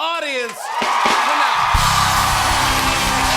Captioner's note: cheers and applause